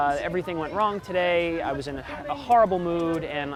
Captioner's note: none